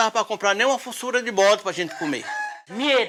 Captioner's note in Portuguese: Canto de galo